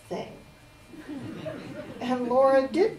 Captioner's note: audience Giggles